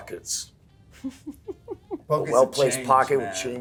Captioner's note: Elizabeth laughing